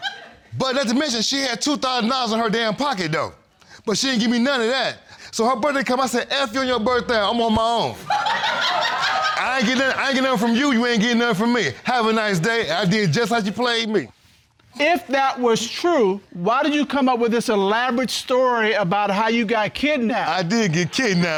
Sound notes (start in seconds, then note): 0.0 woman laughs; 8.0 audience laughs